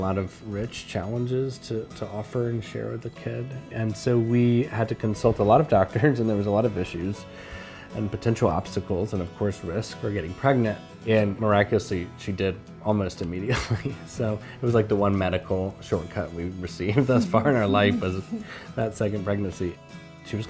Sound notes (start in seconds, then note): 13.6 chuckles; 16.9 chuckling